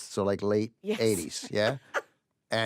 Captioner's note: laughs